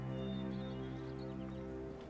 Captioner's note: bird chirp